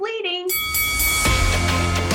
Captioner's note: bell dings; intense music